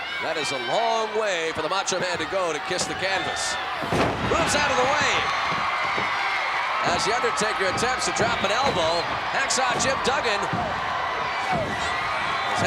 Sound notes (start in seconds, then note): 3.7 bodies slam; 4.5 crowd cheering; 10.6 crowd cheering